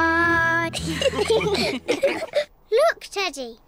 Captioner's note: all laughing